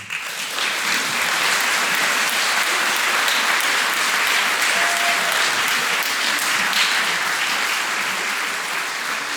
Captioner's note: applause